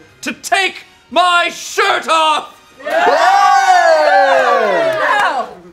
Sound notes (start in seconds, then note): 2.8 group cheers